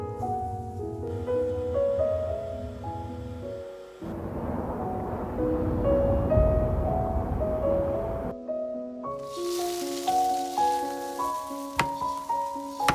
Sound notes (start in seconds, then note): 9.1 sizzling